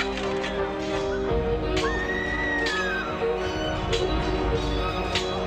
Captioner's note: woman screaming